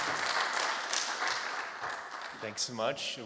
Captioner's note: applause